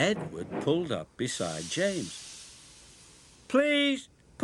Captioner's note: steam hisses